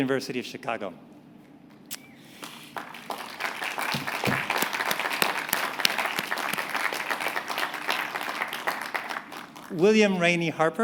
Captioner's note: applause